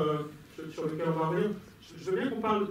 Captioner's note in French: none